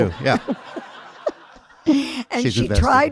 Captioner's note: audience laughing